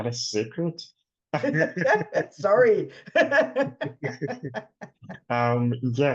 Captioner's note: laughs